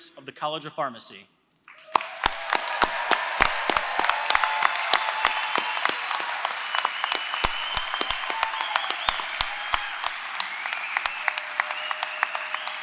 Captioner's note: applause